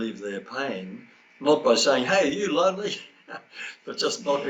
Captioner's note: chuckles